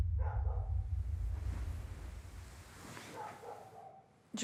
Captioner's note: dog barking